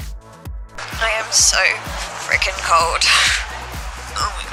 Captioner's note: crowd noise